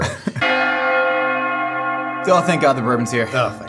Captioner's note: bell Rings